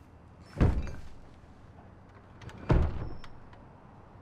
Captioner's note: loud banging in room next door